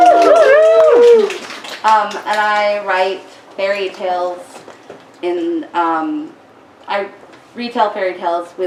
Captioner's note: woos and cheers